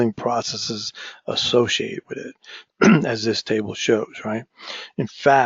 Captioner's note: cough